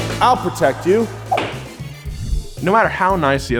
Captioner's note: gavel slamming